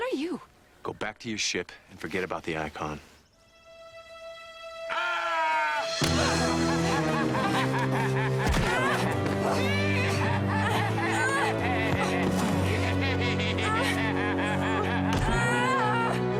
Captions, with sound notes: - Go back to your ship and forget about the icon. (dramatic music) (man yelling) (laughing) (Dalen grunting) (laughing) (Dalen groaning) (ominous music)